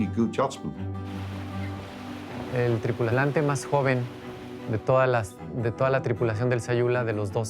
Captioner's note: in Spanish